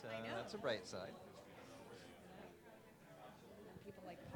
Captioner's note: audience mumbling